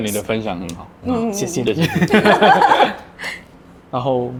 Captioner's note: laughter